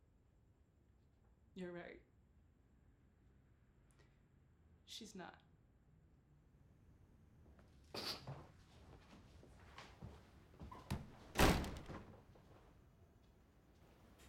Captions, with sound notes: You're right. She's not. [choking back tears] [door slamming]